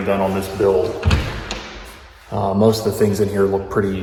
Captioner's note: door thuds